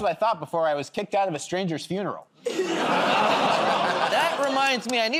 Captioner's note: laughter